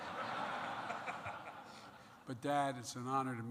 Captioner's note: laughter